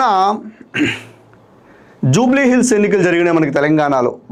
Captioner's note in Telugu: గొంతు సవరించుకోవడం